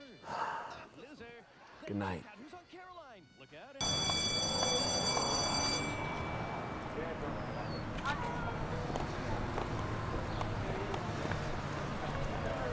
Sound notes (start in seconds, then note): 3.8 school bell ringing; 3.8 soft music